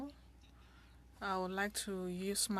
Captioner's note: speaking French